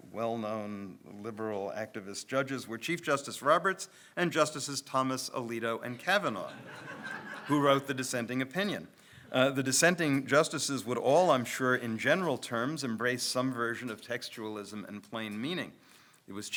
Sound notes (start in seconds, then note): 6.4 audience laughs